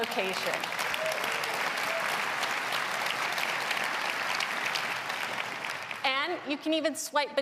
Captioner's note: applause